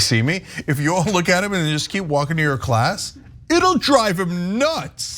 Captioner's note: laugh